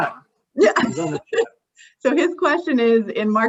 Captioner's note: laughs